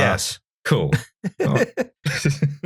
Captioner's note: laughter